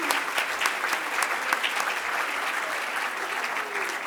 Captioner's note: audience clapping